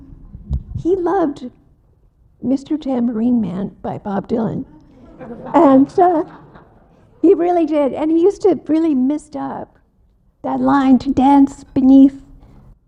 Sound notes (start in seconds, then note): 4.8 audience laughs